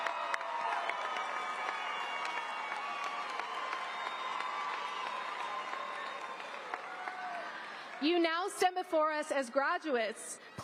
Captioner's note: applause